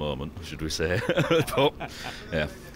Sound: laughs

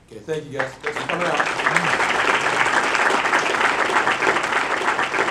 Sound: audience clapping

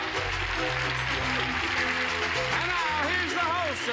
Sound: cheers and applause

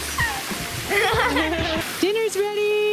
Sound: laughs

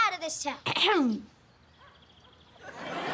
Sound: clears throat

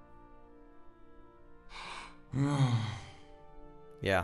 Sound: sigh

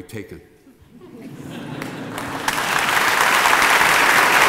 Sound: applause

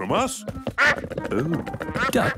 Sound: quacks

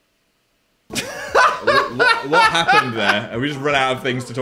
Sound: laughs

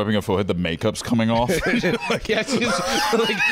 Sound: laughing; laughs

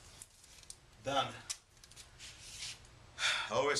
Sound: sighs

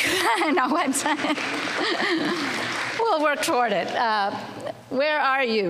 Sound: laughs

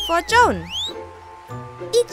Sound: whistle

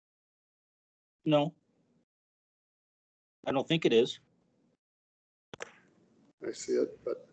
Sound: laughing

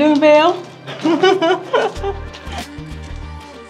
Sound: laughing

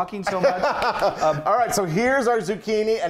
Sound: laughing

